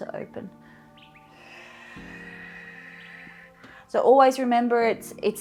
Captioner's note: exhales